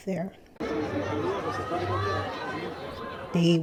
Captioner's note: crowd laughing